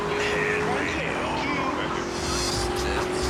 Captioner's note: tires screech